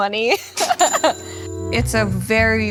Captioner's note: laughing